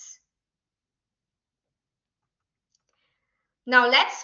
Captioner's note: silence